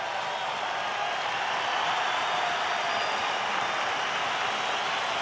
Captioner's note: crowd cheering